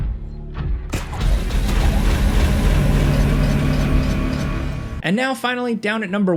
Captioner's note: tense dramatic music; rope dart gun blasting